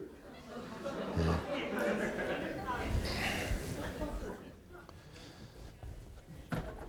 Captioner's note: audience laughing; chuckles